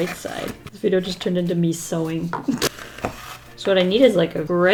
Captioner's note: laughs